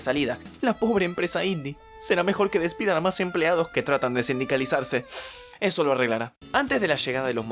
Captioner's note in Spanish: sniff